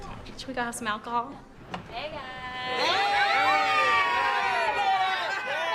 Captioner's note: cheering